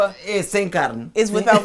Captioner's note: speaking portuguese